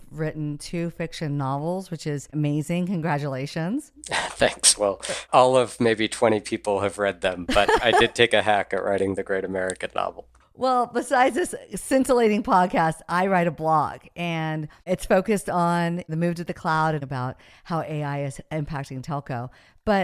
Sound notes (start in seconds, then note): 4.0 laughs; 7.5 laughing